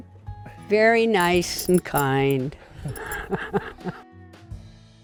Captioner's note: giggling